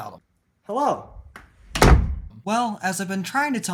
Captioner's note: door Slam